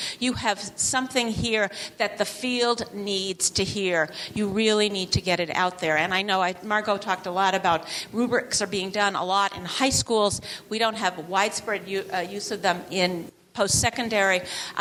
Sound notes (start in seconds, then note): none